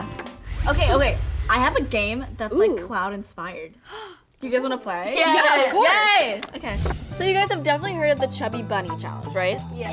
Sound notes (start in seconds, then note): 4.2 gasps